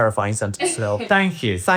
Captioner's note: crew member chuckling